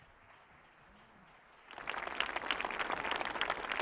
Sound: audience clapping

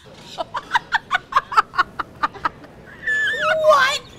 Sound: both laugh

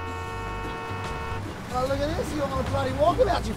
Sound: honking continues; Australian accent

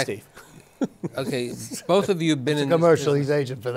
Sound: laughter

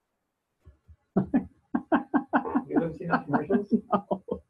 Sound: confused laugh

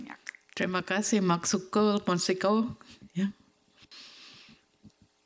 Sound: attendee 2 speaking foreign language; speaking foreign language

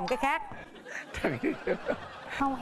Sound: laughing

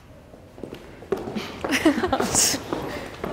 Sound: shoes thudding; laughing

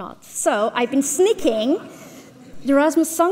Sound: audience laughs

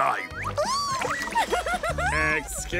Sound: giggling

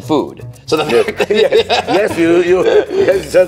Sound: laughing

